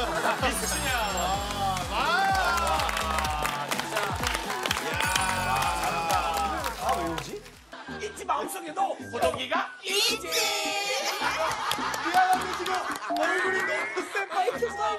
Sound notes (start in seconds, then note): 10.8 hahahaha